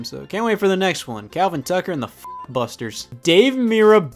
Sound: beep

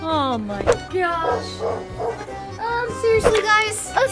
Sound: dog barking

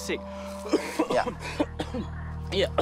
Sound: Sam coughs

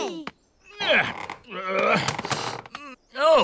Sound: grunts

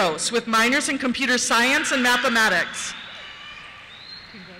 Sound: cheers

